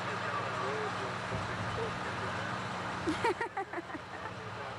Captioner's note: laughter